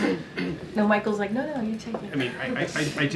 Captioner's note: laughter